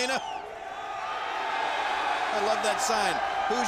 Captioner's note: troops cheer